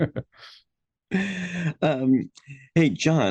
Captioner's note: all chuckling